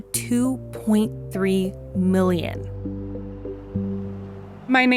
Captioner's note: quiet street sounds, breeze, occasional car